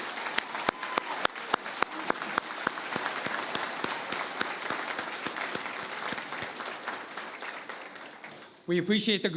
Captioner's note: applause